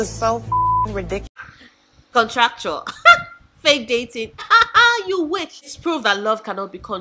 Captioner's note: laugh; laughing